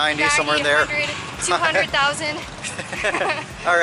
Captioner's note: laughter